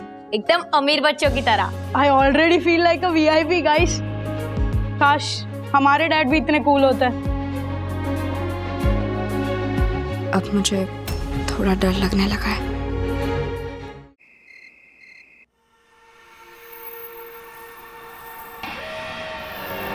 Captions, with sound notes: Just like rich kids. I already feel like a VIP, guys. I wish our dads were this cool too. 'Now I'm feeling scared.' [crickets chirping]